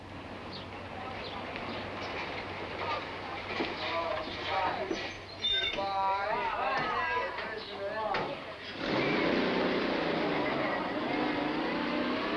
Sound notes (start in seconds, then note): 5.2 kids chattering and laughing